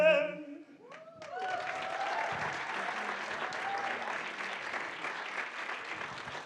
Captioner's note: audience cheering and applauding